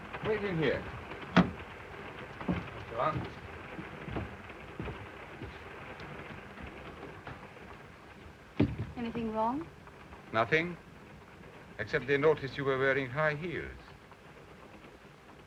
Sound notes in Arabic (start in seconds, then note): 2.8 صوت خشخشة القطار